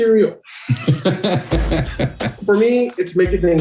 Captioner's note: laughing